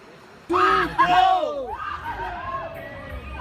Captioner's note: screams